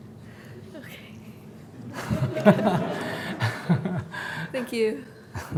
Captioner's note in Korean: 청중 웃음